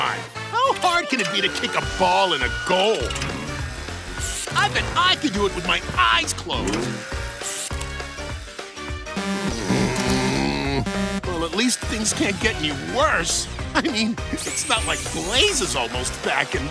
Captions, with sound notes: How hard can it be to kick a ball in a goal? I bet I could do it with my eyes closed. [groaning] Well, at least things can't get any worse. I mean, it's not like Blaze is almost back, and-